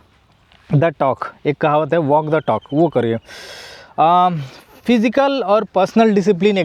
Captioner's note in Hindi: नाक से की जाने वाली आवाज़